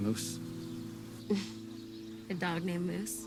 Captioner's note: Cassie laughs